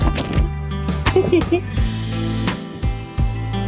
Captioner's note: laughter